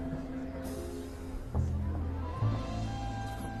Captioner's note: people chattering softly